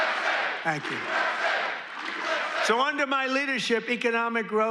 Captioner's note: crowd chanting "usa"